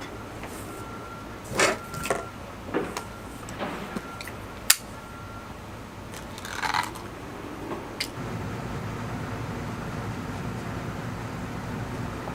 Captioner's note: rustling, opening up oil canister